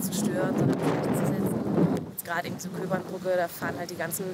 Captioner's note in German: Wind